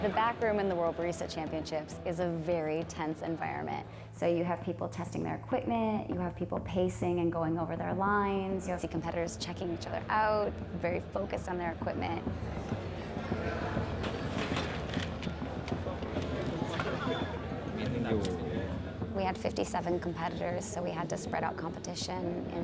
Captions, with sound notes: - The back room in the World Barista Championships is a very tense environment. So you have people testing their equipment, you have people pacing and going over their lines. You don't see competitors checking each other out, very focused on their equipment. (people chattering) We had 57 competitors, so we had to spread out competition